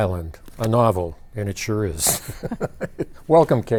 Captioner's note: both chuckling